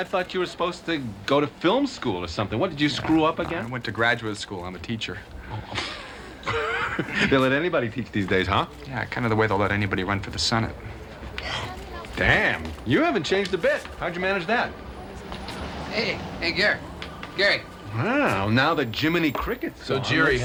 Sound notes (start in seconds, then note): 5.4 laughs; 11.4 gasps